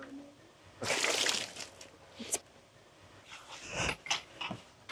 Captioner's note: water splashing